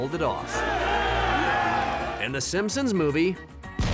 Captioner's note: crowd cheering